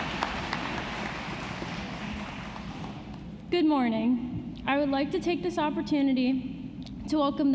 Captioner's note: applause